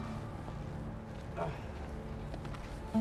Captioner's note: grunting